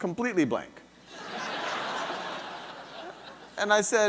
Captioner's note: audience laughing